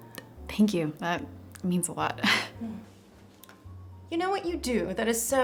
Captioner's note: gasps